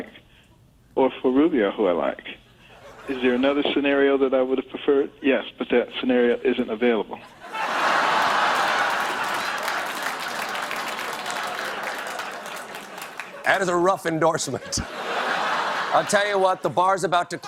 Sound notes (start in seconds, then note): 10.5 cheers and applause